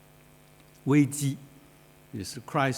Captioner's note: speaks foreign language